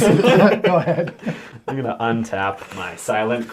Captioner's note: all laugh